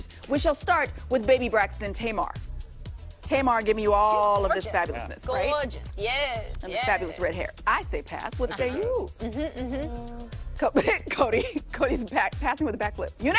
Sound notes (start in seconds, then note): 6.7 laughter